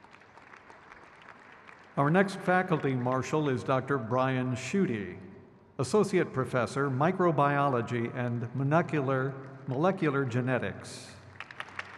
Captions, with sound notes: Victor Frank Iliosov. (crowd claps)